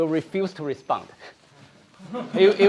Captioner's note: laughter